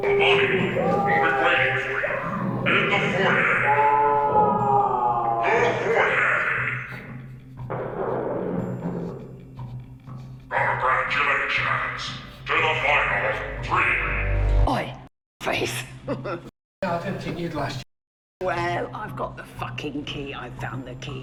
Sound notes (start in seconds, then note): 2.6 victim screaming